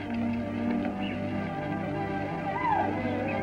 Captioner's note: whooping